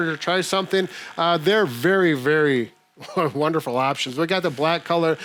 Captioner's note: chuckling